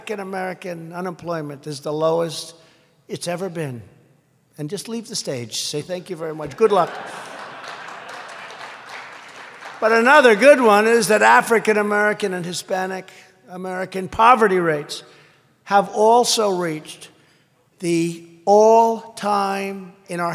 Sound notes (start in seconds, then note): 6.5 laughter and applause